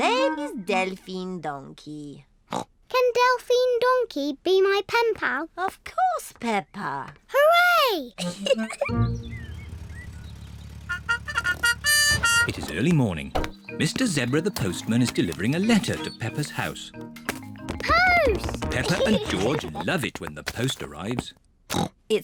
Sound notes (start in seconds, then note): 2.8 snorts; 8.2 giggles; 10.8 car horn; 21.7 snorts